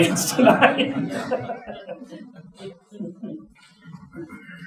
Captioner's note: audience chuckling